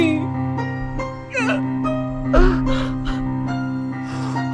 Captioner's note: Ted sobbing